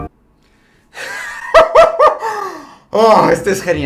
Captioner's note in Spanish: riendo